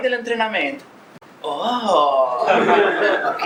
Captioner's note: laughs